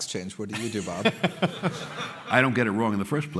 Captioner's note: laughter